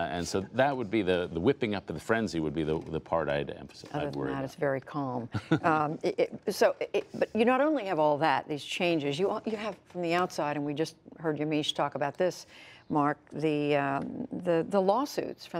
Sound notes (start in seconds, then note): 5.3 laughter